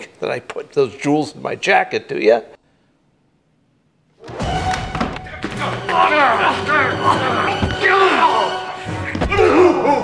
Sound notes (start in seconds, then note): 5.6 grunting, struggling